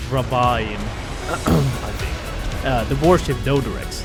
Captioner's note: cough